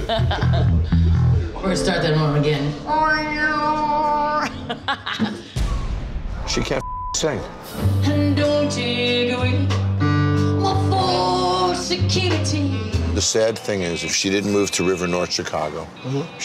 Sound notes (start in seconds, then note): 0.0 laughing; 4.1 laughing; 6.8 beep